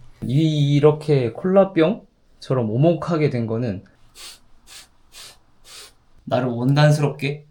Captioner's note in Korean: 콧방귀